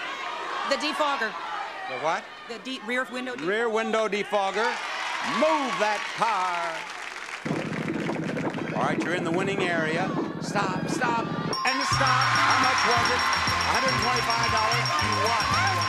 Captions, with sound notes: The defogger. The what? The rear window defogger Rear window defogger. (audience cheers) Move that car. All right, you're in the winning area. (rumbling motor) Stop, stop. (bell rings) And it stops. (audience cheers) How much was it? 125 dollars. You won, you won two cars.